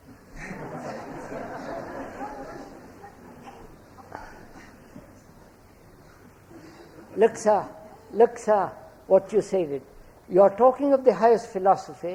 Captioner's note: laughter